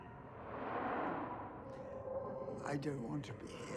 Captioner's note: loud whooshing